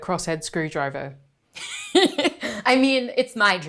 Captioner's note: laughs